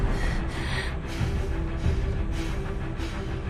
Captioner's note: breathes heavily